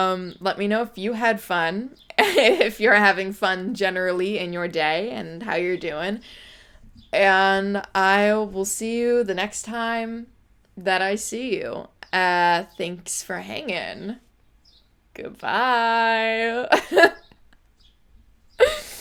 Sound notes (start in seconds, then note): 16.7 laughs